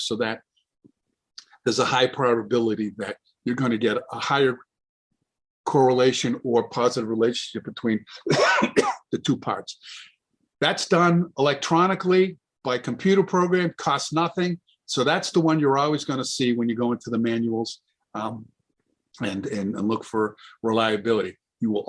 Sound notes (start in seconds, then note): 8.1 coughs